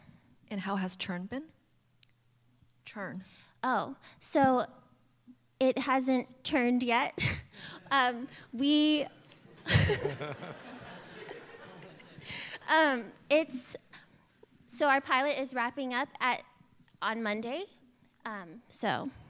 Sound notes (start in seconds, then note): 7.1 laughs; 9.3 laughter